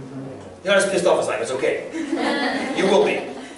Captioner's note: laughter